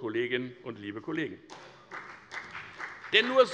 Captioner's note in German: Beifall bei der FDP